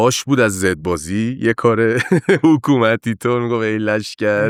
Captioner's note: laughs